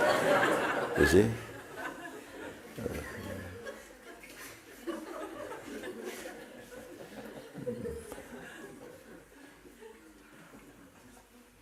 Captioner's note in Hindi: हँसी